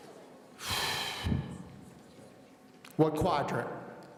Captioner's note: sighing